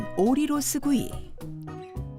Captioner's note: voiceover